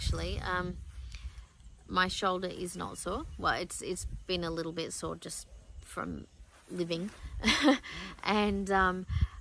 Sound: laughs wryly

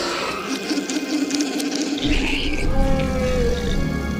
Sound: dying roars

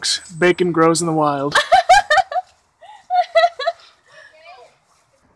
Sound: laughs

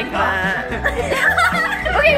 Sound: laughing

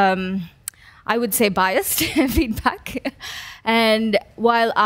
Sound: laughs

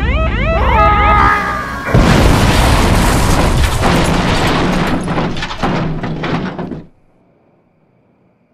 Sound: crash sounds

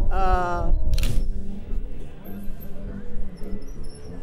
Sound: camera clicks loudly; mellow guitar music

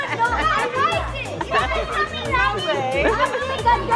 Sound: people laughing; murmurs

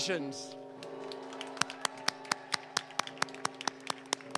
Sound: applause

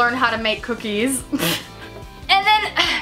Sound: laughs

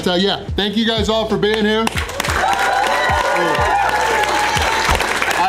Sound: crowd cheering

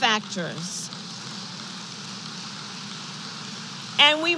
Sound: applause

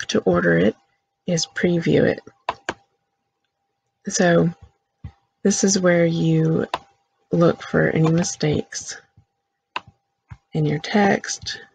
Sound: click

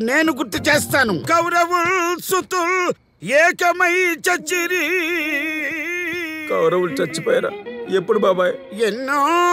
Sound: reciting stage drama poem

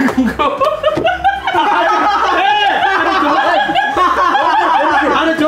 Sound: laughs

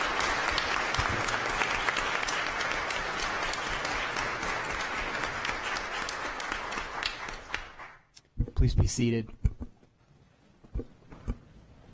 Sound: applause

